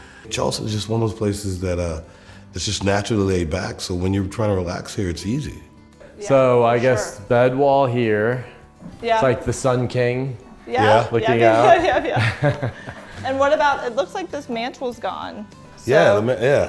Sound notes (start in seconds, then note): 13.0 laughing amusingly